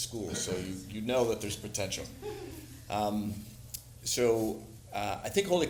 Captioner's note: somebody laughing